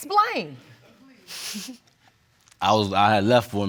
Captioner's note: chuckles